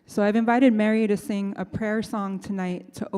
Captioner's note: none